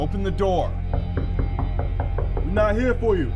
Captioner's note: knocking on the door